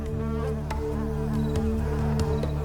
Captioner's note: buzzing intensifies